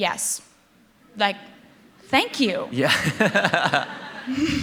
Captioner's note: laughter